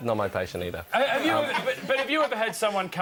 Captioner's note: audience laughs